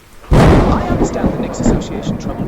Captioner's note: thunder roars